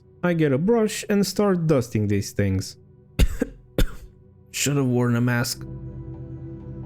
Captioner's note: cough cough